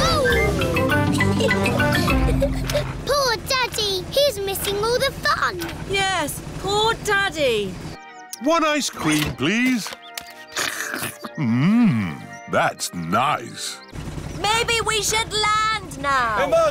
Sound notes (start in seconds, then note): 1.1 giggles; 10.5 slurps